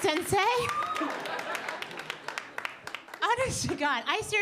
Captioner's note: audience laughing